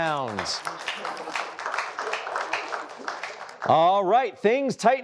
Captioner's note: applause